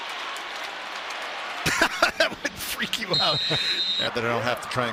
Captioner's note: laughing